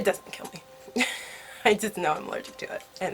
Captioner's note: laughs